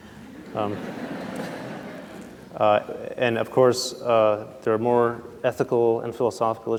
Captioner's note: laughter